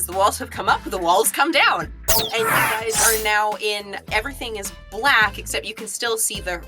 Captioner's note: swoosh